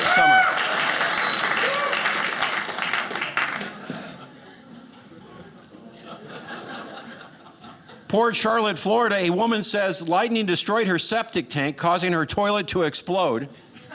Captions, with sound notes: Summer. (audience cheering) Port Charlotte, Florida, a woman says lightning destroyed her septic tank 'causing her toilet to explode.